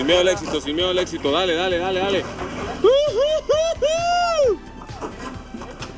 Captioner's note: cheering